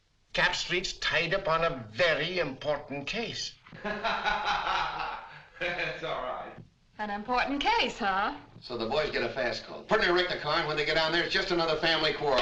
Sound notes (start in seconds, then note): 3.7 muffled laughter